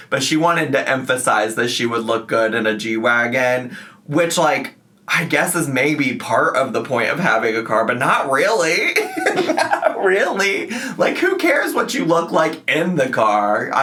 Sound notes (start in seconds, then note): 8.9 laughing